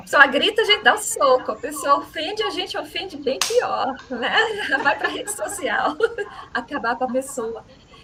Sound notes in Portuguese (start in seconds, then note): 3.6 risadas